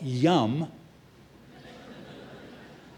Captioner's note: laughter